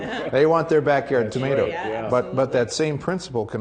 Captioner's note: laughing